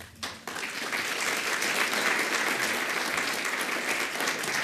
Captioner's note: audience applauds